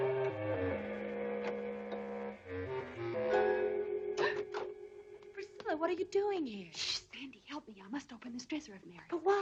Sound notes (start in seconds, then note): 4.1 Priscilla gasps